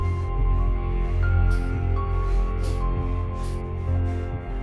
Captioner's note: heavy breathing